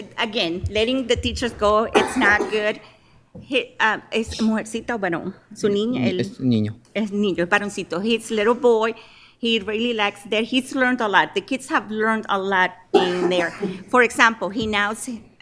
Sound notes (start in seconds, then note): 5.3 speaking in spanish